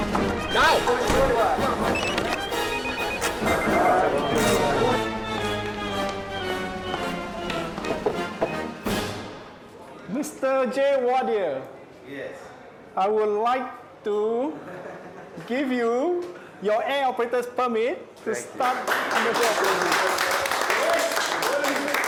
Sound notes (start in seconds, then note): 7.5 knocking; 18.5 applauding